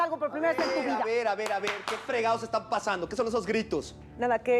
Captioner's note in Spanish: palmadas